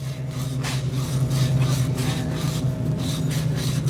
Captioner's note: worker sanding